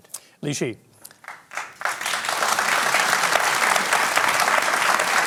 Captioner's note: applause